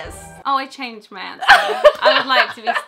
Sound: laughing

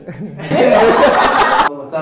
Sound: laughs

